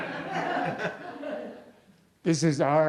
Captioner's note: laughter